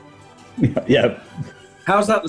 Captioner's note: laughing